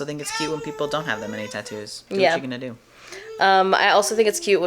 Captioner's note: babbling in the background